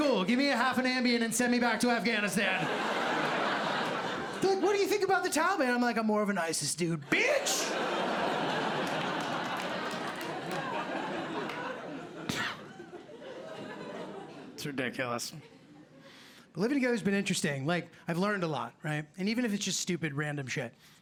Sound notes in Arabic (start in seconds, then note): 1.5 ضحك; 8.8 ضحك